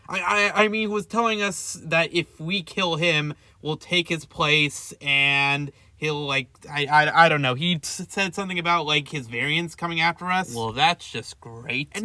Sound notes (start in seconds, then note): none